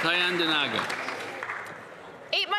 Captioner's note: applause